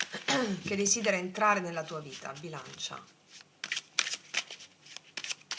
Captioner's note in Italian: schiarire la voce